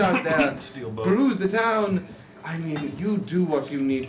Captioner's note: coughs